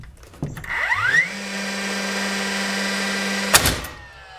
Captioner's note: whirring; bang